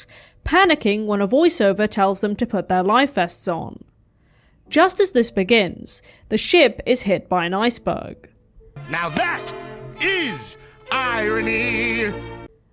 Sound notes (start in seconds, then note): none